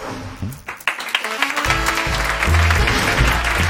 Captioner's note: applause